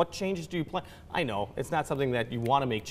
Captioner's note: snaps fingers